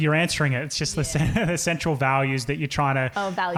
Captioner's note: chuckles